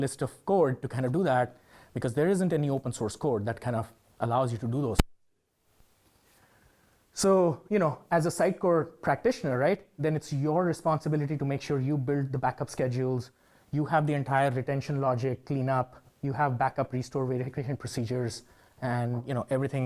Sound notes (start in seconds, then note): 6.4 mic glitch